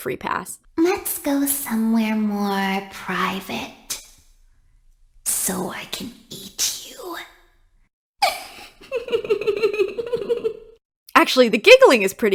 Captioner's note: giggling